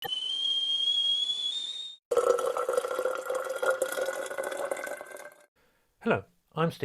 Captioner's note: sound of kettle boiling and water pouring